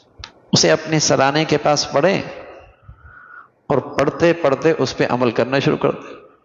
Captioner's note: sigh